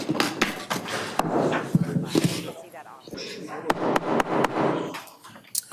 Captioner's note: hammer knocking on table